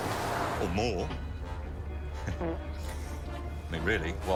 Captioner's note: man farts